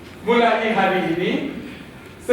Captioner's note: none